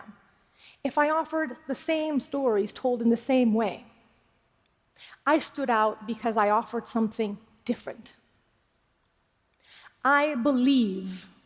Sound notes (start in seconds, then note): none